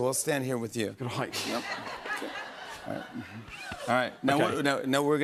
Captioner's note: laughter